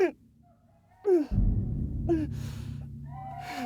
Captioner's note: Cora breathes